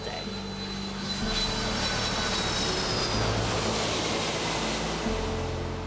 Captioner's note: airplane flying; gentle piano music